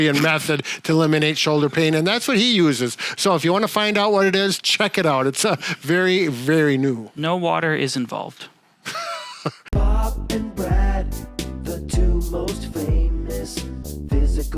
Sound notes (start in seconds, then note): 8.8 chuckles